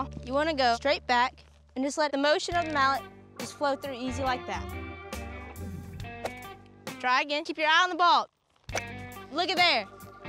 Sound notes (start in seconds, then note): 5.9 whoosh; 8.7 hitting ball